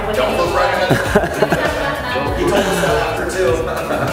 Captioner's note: laughter